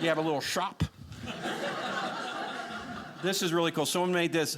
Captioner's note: audience laughing